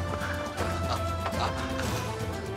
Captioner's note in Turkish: Gülüyor